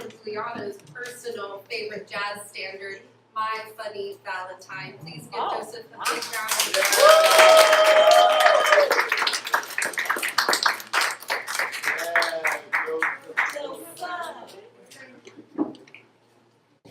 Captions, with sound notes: personal favorite jazz standards, "my funny valentine" Please give Joseph a big round of applause (APPLAUSE)